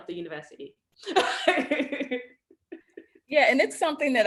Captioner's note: laughs